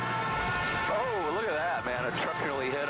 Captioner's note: cars honking